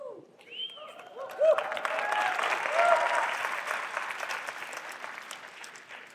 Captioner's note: applause